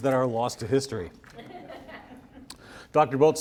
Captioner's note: audience laughs